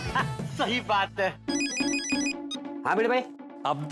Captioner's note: cell phone ringing